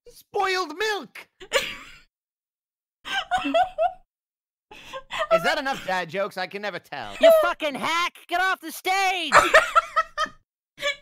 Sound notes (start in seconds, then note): 3.1 laughing/wheezing; 9.3 laughing